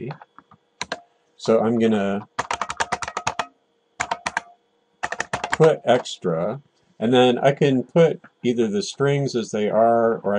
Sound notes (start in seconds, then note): 2.2 typing